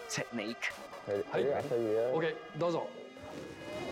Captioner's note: speaking Japanese